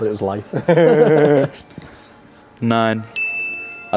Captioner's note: laughing